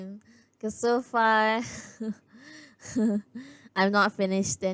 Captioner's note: laughs